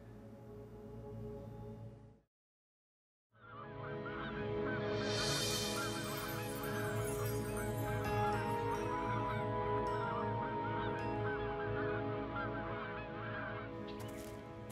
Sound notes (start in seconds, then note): 0.2 dramatic music; 3.7 birds cawing; 3.9 bright music